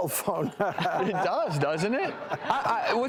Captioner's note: laughing